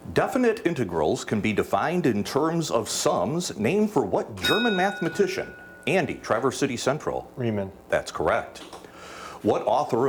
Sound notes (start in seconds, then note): 4.4 bell dings